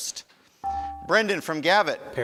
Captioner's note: buzzer chimes